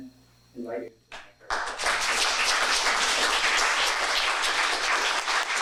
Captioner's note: audience clapping